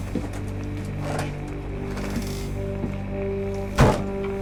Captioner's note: creaking door; door closing